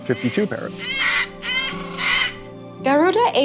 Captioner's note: parrots squawking